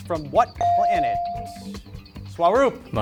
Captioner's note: beep